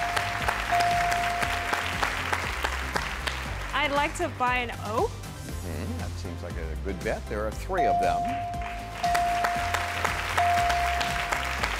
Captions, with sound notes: (clapping) - I'd like to buy an o. - Mh, that's seems like a good bet. There are three of them. (beeping) (clapping)